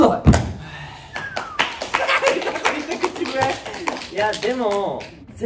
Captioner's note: whistles